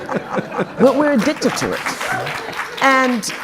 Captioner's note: audience clapping